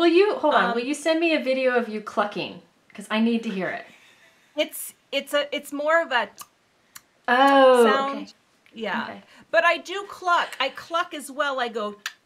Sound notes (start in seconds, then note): 6.9 tongue snapping